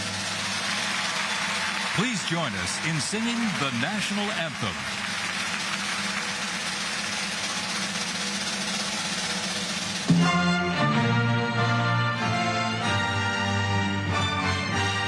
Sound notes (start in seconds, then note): 4.0 crowd booing